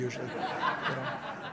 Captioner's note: laughter